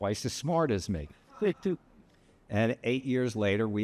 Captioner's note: laughs